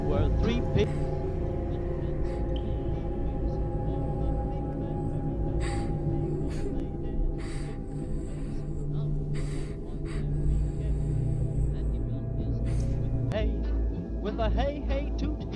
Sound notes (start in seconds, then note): 2.5 cry